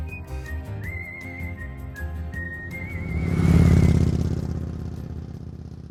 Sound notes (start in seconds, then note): 0.0 bright music; 3.4 motorcycle engine revving